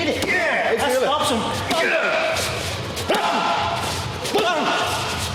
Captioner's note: grunting